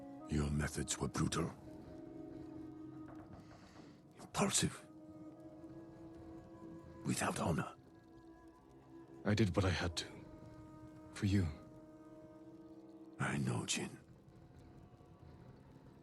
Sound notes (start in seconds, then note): none